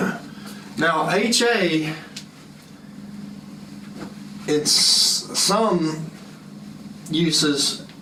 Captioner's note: cough